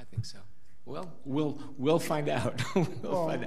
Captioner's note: laughs